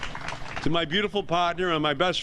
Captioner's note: applause